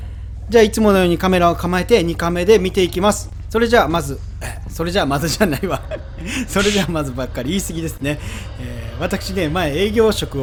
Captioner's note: haha